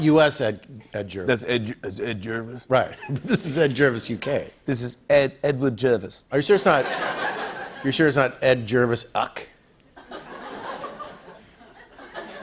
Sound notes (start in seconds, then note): 4.0 British accent; 9.9 laughter